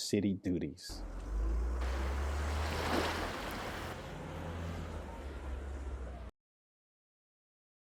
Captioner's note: ocean wave crashing; trolley passes